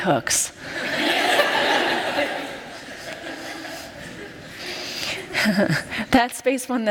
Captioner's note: laughter